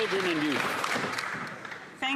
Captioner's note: applause